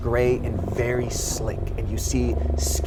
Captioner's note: creature growls